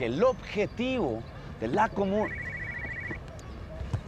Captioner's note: the phone rings